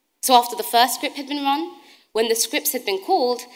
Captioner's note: none